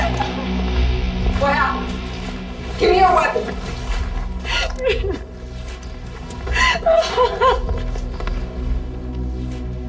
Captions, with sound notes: - What happened? Give me your weapon. (Nurse Lee sobbing)